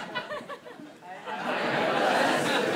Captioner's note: crowd